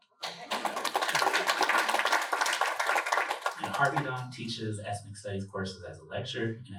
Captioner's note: applause